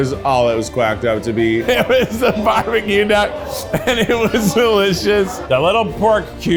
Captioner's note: laughs